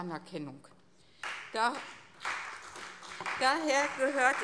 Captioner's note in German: Beifall CDU, BÜNDNIS 90/DIE GRÜNEN und SPD